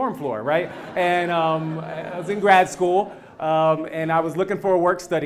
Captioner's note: laugh